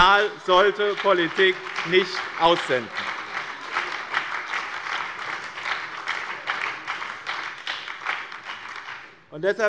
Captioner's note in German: Beifall bei dem BÜNDNIS 90/DIE GRÜNEN und der SPD